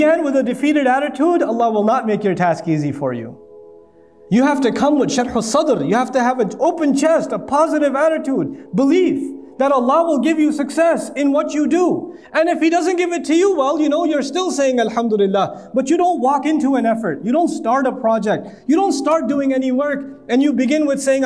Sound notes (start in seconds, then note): 5.2 Arabic